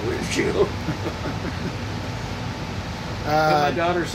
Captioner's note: laughing